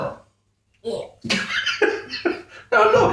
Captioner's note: laughs